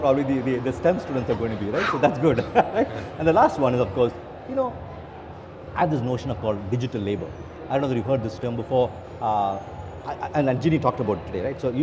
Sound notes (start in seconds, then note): 1.7 laughing